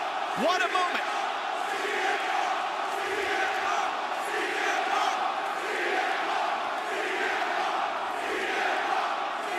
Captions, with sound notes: What a moment! [CM PUNK CHANTS]